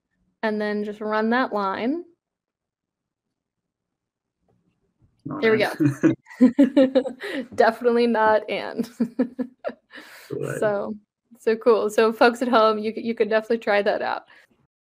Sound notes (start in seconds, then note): 5.4 both laugh; 9.9 laughs